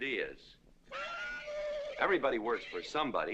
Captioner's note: horse whinnying